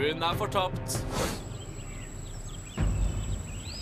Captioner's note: birds chirping